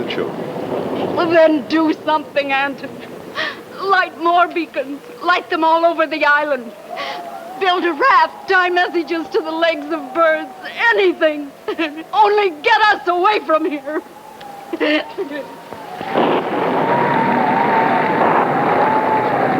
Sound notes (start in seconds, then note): 8.3 laughs